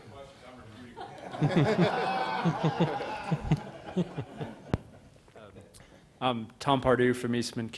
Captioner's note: laughter